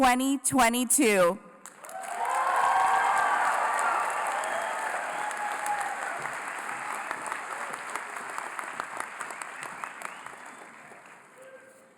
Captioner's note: applause